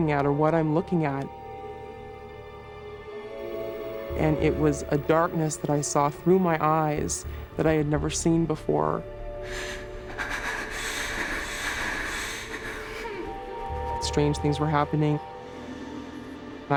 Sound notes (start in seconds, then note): 10.3 gasps